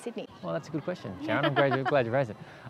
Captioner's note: laughs